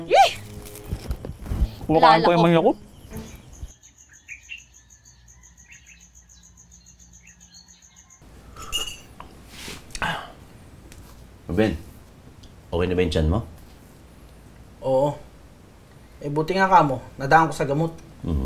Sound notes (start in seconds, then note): 3.6 birds chirping